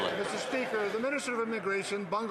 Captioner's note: some Applause